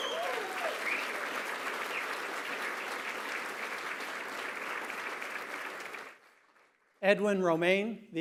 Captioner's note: applause, cheering